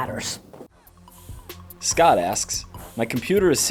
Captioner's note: voiceover